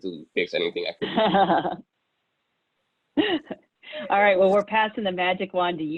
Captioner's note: laughs